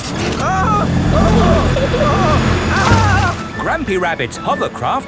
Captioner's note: grandpa screaming